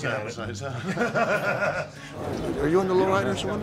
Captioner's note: laugh